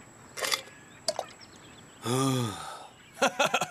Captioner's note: sighing